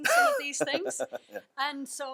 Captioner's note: laughs